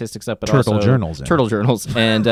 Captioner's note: laughs